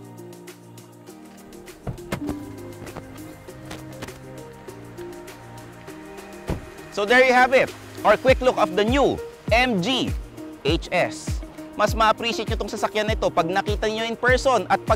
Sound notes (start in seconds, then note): 1.3 door unlatches; 6.4 door thuds